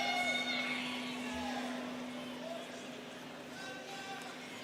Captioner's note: students cheering